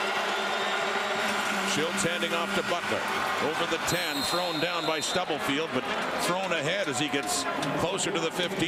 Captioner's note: crowd Noise